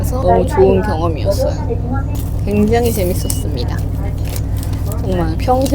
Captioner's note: laughs